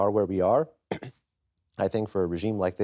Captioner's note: clears his throat